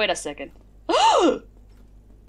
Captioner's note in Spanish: gasp